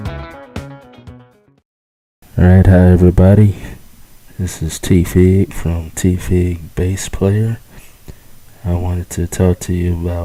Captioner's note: male Speaking